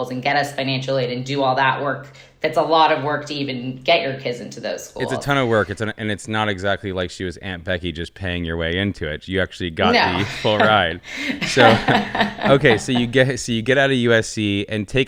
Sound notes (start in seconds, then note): 9.8 laughing